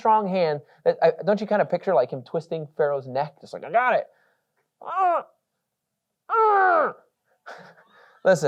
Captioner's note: grunting